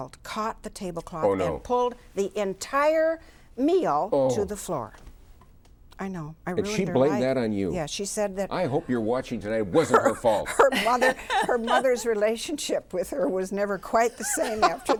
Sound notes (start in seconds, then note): 9.8 laughs